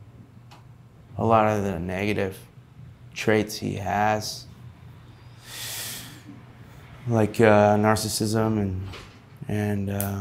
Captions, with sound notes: a lot of the negative traits he has, (inhaling deeply) like narcissism and.